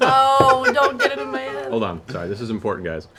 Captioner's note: laughter; moans